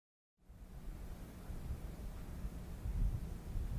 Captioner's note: wind blowing